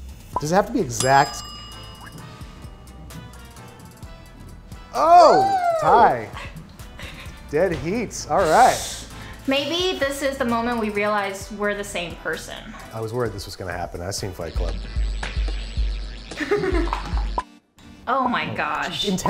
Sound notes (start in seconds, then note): 0.8 timer dings; 4.9 they exclaim; 8.6 she hisses; 13.9 thumping bass music; 16.3 timer ticking